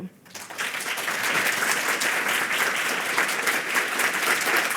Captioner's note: audience applauding